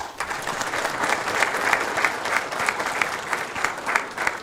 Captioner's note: applause